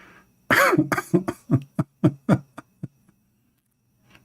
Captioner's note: Ketawa